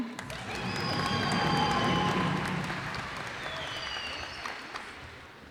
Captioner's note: cheers and applause